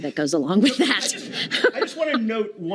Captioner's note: laughter